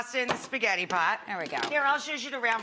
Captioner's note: lid clanking